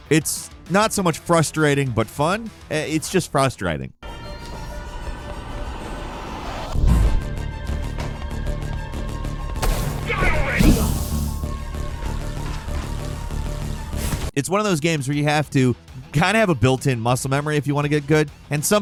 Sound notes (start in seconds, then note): 4.2 energetic music; 10.6 gunshot cracking